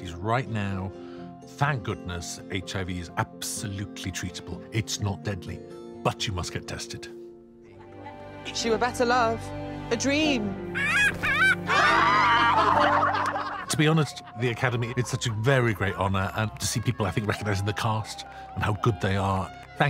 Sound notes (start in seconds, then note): 10.7 bird cawing; 11.8 laughter